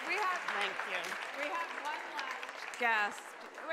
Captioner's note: applause